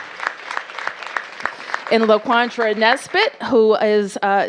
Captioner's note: applause